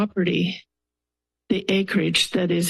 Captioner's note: pause